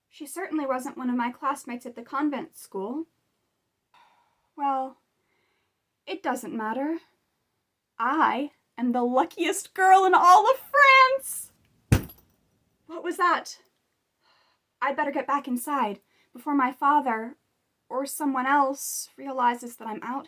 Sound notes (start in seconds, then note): 11.9 clanging noise